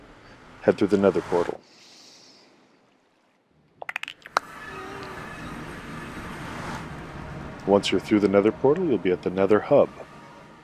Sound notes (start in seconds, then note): 3.8 chirps and pops; 4.8 nether portal whooshes